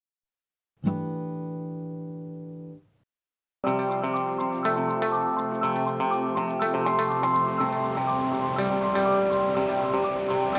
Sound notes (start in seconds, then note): 1.1 chime sounds; 3.6 upbeat music